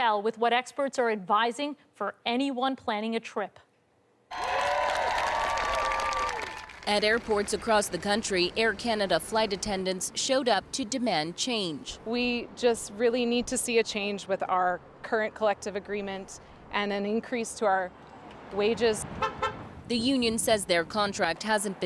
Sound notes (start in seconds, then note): 6.1 cheers and Applause